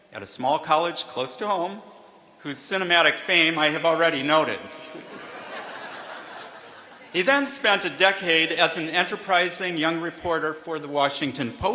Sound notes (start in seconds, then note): 4.0 laughter